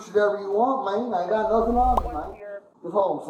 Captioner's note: radio chatter